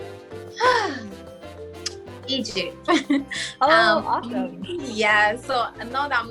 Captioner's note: sighs